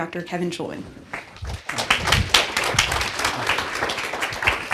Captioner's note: applauding